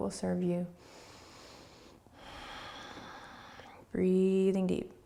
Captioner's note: breathing